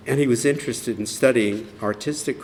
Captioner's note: none